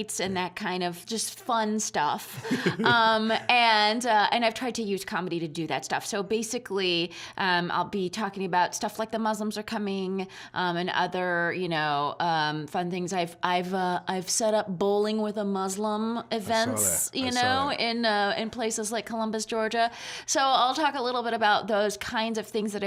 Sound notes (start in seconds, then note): 2.3 laughing